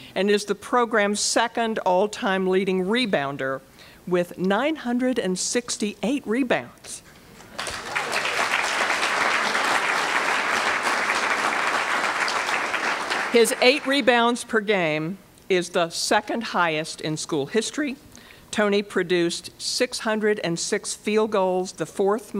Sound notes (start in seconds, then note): 7.5 applause